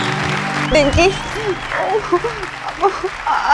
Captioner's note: Crying